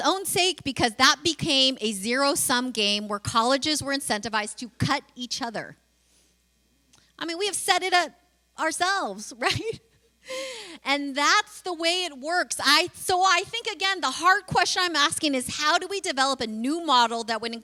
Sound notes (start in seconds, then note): 9.7 laughs